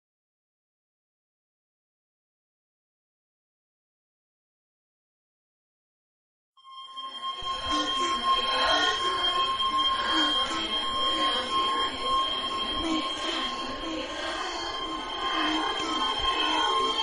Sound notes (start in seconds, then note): 1.8 continous Ringing Tone. Distorted voices playing softly in the background